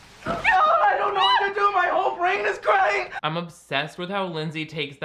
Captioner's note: yells